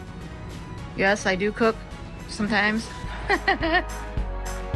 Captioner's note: laughing; upbeat music